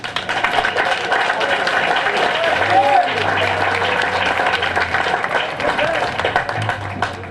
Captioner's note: applause